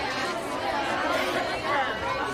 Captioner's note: inmates chattering